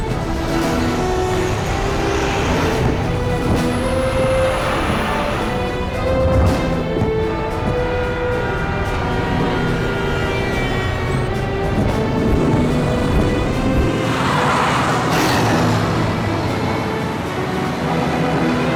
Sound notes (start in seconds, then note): 8.6 horns blare; 14.2 tyres screech